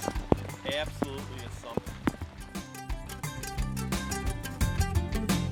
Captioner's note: raindrops